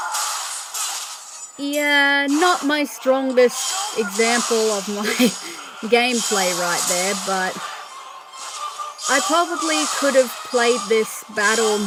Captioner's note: laughter